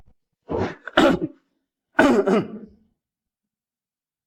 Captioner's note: cough cough